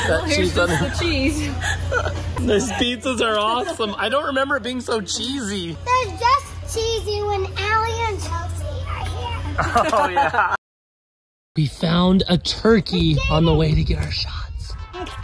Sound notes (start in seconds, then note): 2.5 laughing; 9.5 laughing